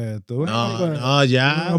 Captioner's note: speaking In Foreign Language